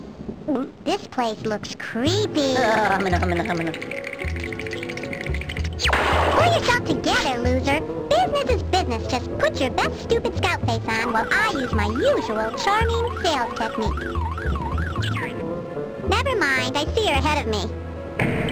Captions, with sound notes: (gulp) This place looks creepy. (shivering sounds) Pull yourself together, loser! Business is business! Just put your best stupid scout face on while I use my usual charming sales technique. Nevermind, I see you’re ahead of me.